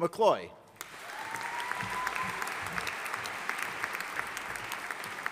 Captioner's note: audience applauding